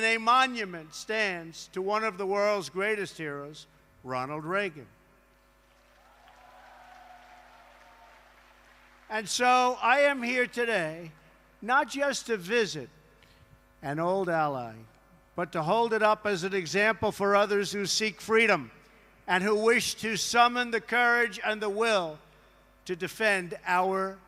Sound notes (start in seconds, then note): 7.8 applause